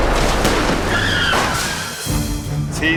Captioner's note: tires squealing